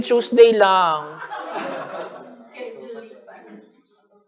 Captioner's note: laughter